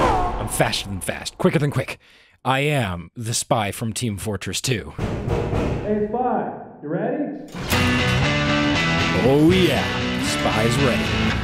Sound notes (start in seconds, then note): 5.0 knocking on respawn door